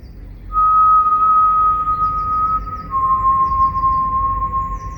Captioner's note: Hercules whistling